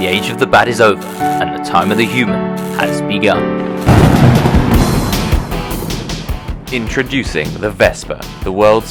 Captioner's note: explosion